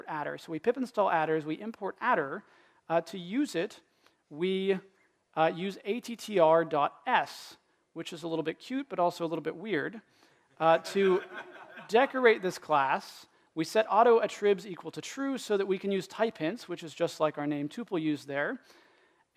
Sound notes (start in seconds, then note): 10.7 laughter